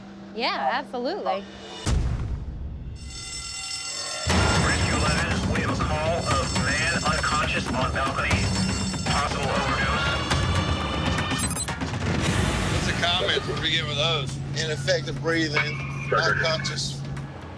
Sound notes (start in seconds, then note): 1.4 audio logo; 3.0 bell ringing